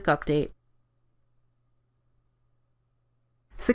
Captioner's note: silence